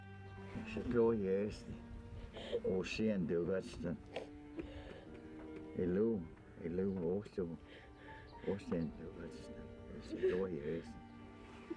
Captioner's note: Spoken Cherokee